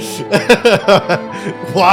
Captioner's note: laughing